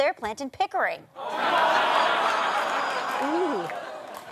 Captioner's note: audience laughter